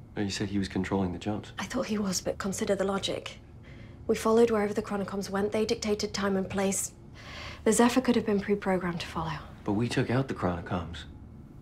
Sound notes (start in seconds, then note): none